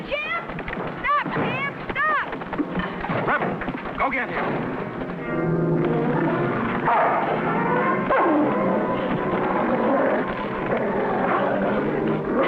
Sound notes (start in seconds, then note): 7.4 dog growling; 9.6 dramatic music